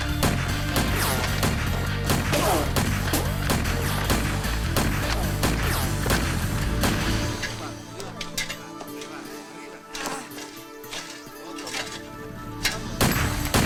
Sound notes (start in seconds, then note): 0.3 guns firing; 7.4 slow guitar music; 8.3 men speaking in foreign language